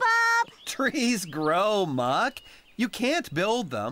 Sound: chuckles

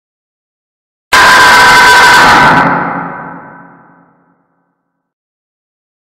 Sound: scarenoise

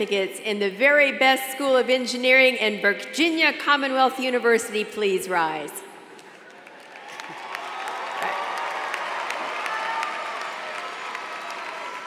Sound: applause

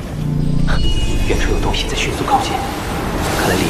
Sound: something is approaching at a fast speed

